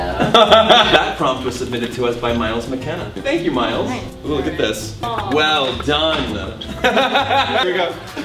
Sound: laughs; laughs

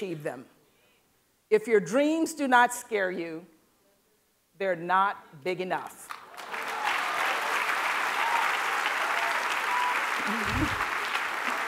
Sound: applause

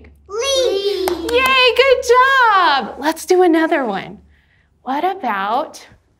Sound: claps

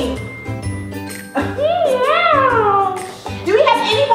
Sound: cat sounds

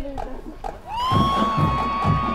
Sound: cheers

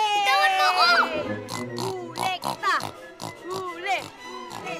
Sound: Ador snorting

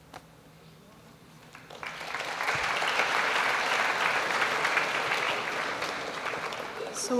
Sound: applause

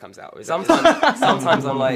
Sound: laughs

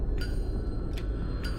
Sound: click

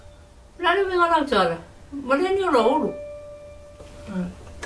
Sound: speaking in Samoan

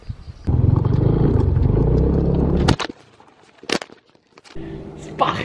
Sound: engine sound

